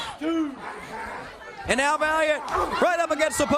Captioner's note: crowd chatter